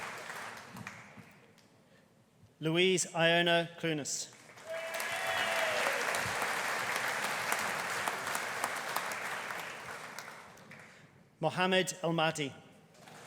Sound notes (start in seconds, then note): 4.4 audience applauding; 4.6 audience cheering